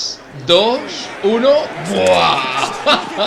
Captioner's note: laughs